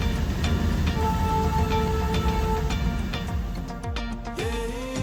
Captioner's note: horn blaring